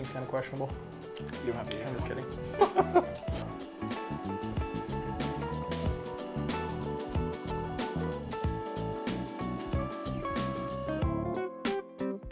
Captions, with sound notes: seems kinda questionable. - You don't have to eat it. - I'm just kidding. (laughing) (light jazz music)